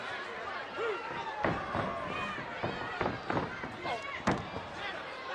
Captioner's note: crowd yelling